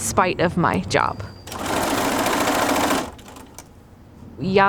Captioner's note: sewing machine sounds